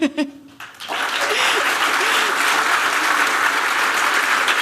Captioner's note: laughter